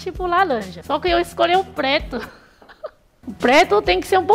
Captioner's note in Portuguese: risos